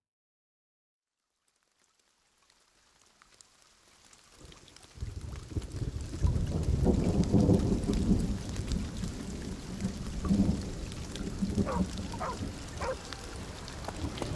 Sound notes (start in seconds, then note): 1.2 rain pattering; 4.6 thunder rumbling; 12.7 dog barking